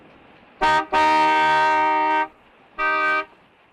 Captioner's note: horn honking